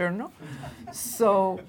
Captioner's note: laughing